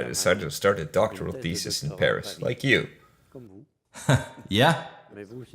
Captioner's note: laughs